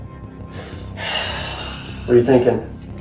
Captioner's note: sighs